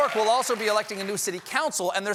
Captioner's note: cheers and applause